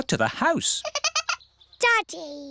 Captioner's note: giggling